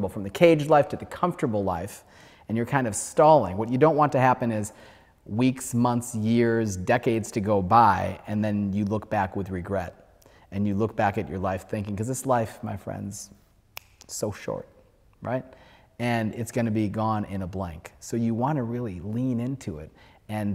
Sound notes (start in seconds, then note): 13.7 snaps finger